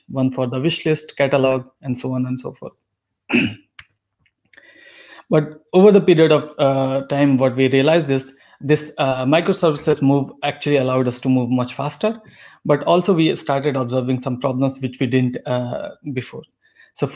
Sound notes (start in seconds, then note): 3.3 clears throat